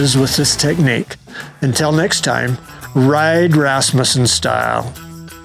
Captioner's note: engine roaring